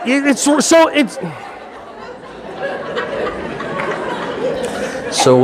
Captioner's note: audience laughing